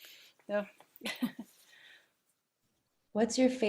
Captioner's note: laughing